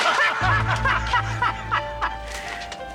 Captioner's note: Bridges and Dominguez laugh